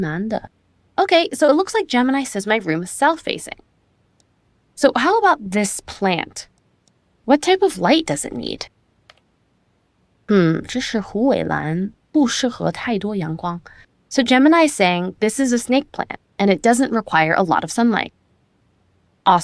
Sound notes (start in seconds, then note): 10.4 speaking chinese